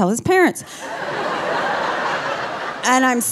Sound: audience laughing

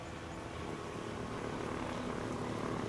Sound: engine rumbles

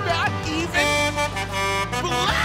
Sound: truck horn

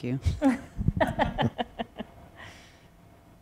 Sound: laughter

